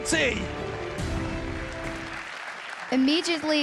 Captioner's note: applause